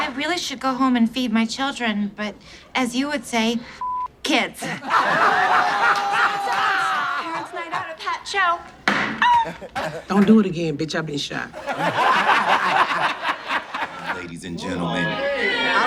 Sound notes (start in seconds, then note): 0.0 audience laughs; 3.8 beep; 4.6 audience laughs; 8.8 gavel knocks; 11.6 audience laughs